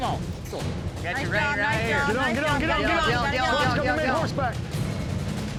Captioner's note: shouting encouragement